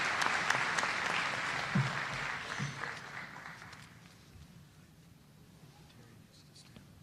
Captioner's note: applause